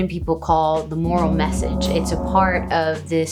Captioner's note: sonorous gong